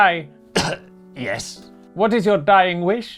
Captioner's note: cough!